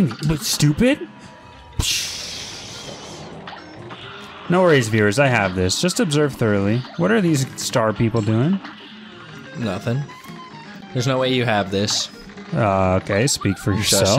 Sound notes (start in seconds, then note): 2.0 imitating explosion noise